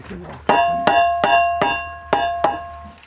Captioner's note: metallic sounds